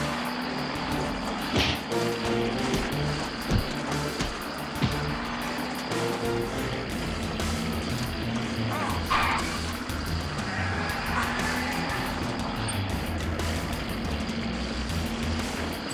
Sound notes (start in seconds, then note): 10.4 driver groans